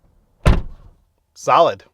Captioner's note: door slams